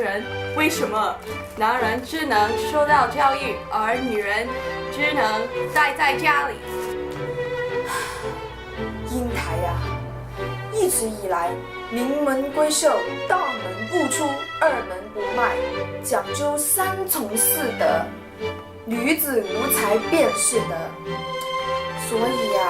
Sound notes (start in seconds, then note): 7.8 sigh